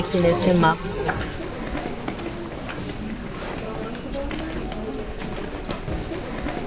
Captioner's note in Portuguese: Vozes e passos